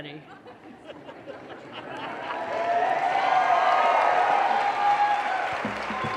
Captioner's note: audience laughter and cheers